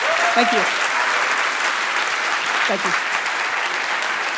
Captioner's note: audience applause